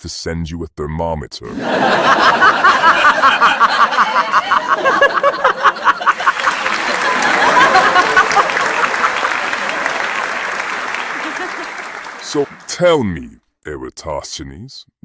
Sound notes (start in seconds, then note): 1.8 audience laughing; 6.4 audience clapping